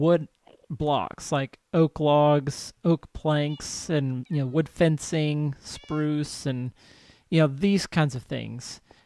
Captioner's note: cat meows